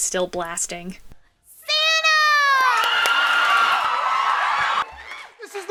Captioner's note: clapping, cheering